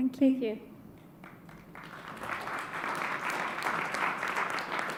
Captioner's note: audience applauds